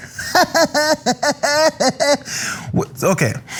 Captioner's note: laugh